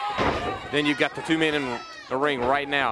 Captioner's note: crowd cheering